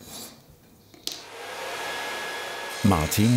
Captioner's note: sounds of sawing